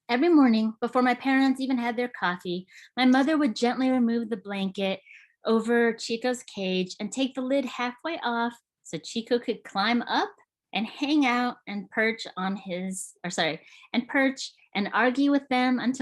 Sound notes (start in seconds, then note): none